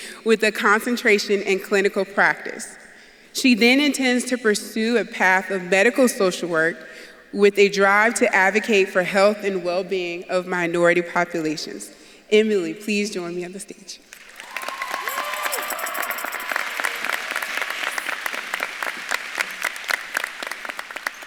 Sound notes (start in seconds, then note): 14.1 audience claps and cheers; 15.4 bell jingling